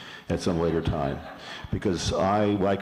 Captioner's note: laughter